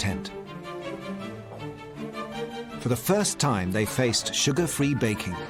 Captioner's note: none